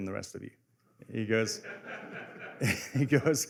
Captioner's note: laughter